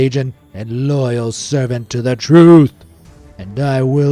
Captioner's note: in a dramatic voice